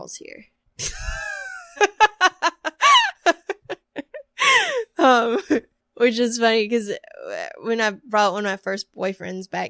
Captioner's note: laughter